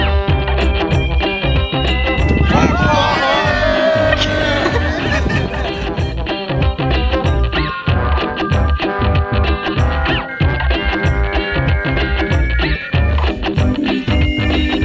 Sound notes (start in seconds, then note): 2.4 cheering